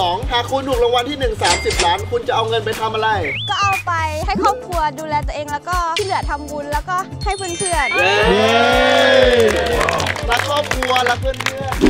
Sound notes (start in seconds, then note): 7.9 cheering; 8.7 applauding